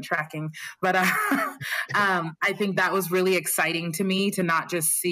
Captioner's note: laughter